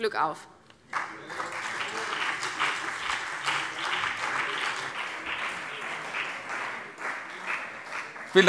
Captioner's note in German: Beifall BÜNDNIS 90/DIE GRÜNEN, CDU und vereinzelt Freie Demokraten